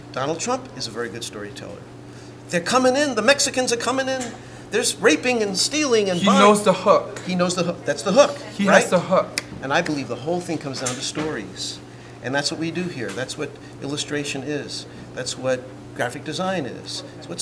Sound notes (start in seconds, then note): 9.3 snaps